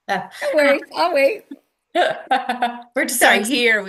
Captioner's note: laughs